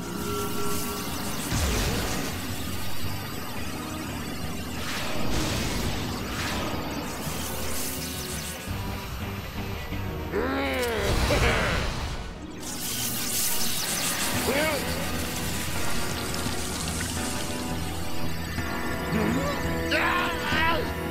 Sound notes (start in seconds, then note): 0.1 electric static; 10.3 grumbling; 11.4 giggles